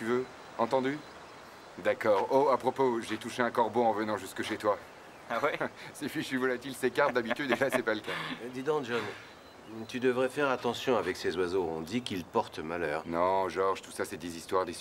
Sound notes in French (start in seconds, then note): 6.7 rire